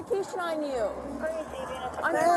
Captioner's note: radio chatter